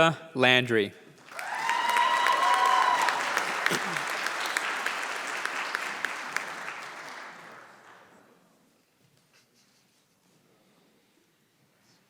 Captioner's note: applause